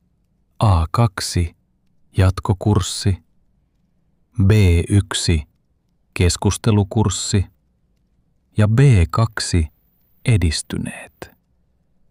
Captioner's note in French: conversation